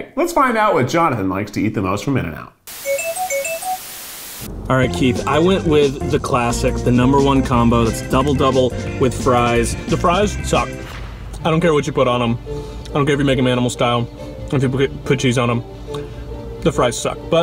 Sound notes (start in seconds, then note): 2.6 static crackling; 2.8 whimsical music